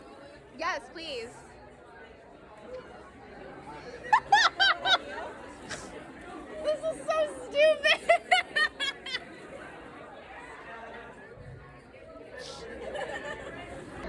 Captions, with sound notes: Yes, please. (laughs) This is so stupid.